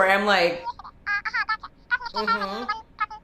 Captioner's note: indistinct chatter